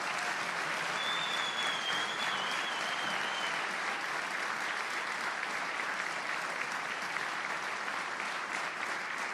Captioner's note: applause